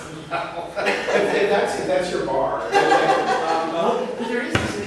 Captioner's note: laughs